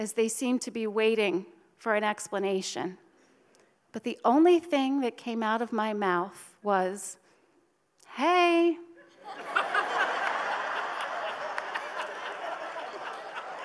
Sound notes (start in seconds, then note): 9.1 audience laughs